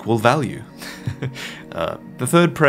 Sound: laughs

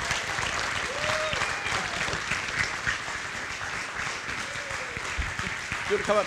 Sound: audience cheering and applauding

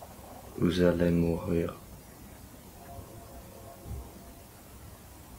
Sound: Jake speaking French

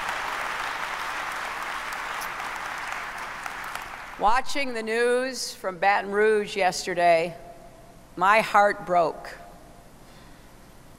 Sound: applause

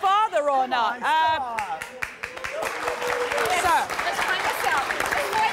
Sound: applause

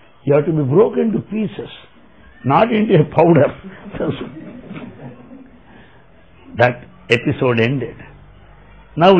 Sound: laughter

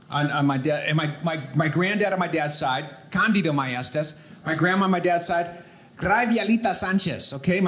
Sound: none

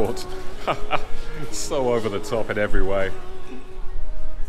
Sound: laughing

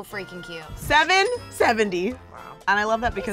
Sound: cash register rings

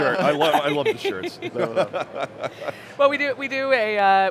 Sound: laughter

